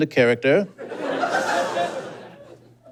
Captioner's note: audience giggles